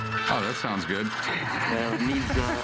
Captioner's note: laughs